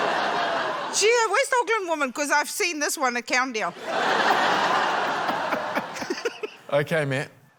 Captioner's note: laughter; laughter